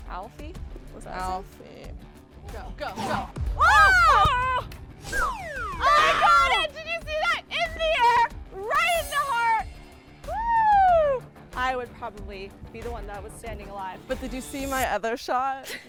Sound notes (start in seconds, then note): 3.8 excited shouts; 10.2 excited shout